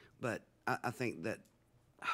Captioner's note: none